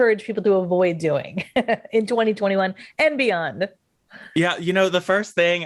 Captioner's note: laughs